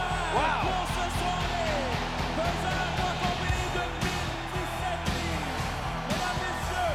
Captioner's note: crowd cheering; speaking foreign language